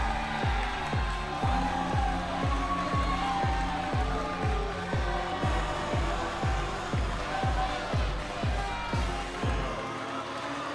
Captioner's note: crowd cheering